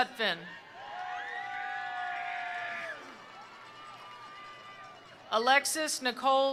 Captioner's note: attendees cheering; attendees applauding